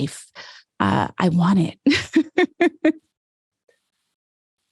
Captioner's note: laughs